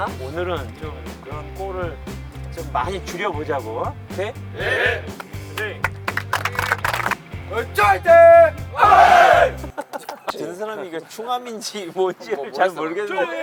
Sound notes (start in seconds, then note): 7.4 The captain of Chungam FC is shouting a chant of the team